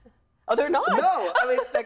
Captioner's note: laughing